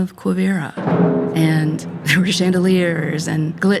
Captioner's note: laughing